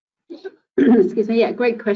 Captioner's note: clearing throat